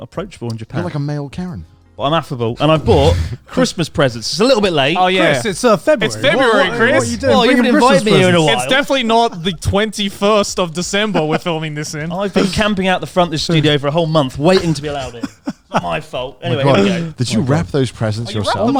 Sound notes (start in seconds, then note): 14.5 laughs